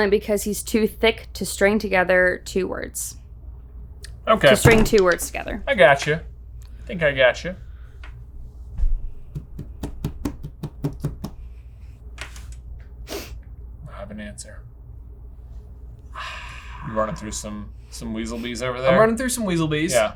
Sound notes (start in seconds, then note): 4.4 hand thumps; 9.3 hand tapping